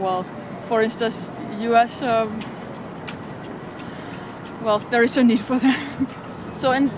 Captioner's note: laughs